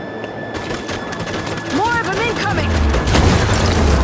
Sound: gunshots

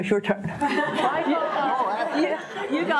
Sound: audience laughing

